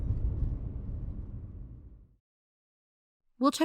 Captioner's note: ambience fades out